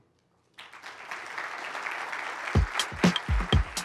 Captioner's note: applause